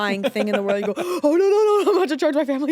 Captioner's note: gasps